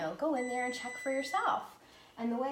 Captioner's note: beeping